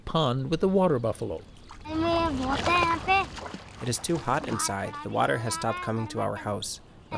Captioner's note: through translator